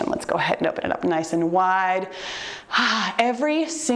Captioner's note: sighs